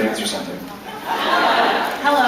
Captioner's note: laughs